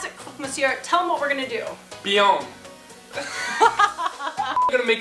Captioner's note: laugher